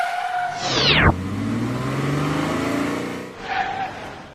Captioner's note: car screeching tire noise